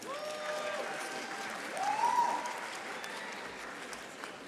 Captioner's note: audience applauding